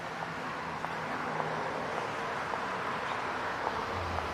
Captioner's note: distant traffic